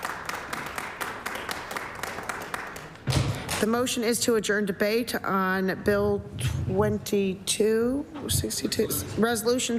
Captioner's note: applause